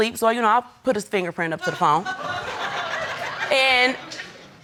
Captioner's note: audience laugh